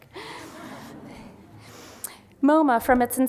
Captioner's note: laughter